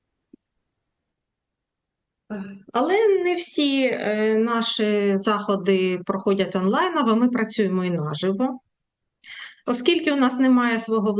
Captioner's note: foreign language